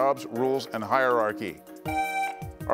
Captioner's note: buzzer beeps